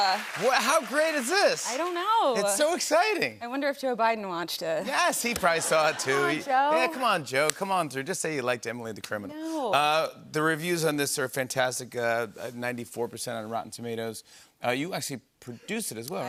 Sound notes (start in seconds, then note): 5.4 laughter